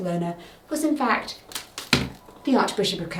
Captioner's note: pointer thuds